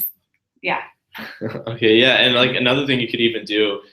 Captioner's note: laugh